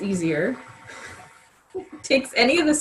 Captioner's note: laughs